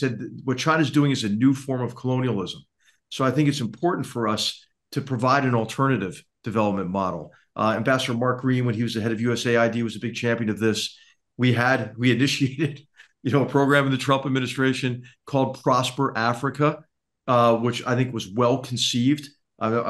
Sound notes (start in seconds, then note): 12.7 laugh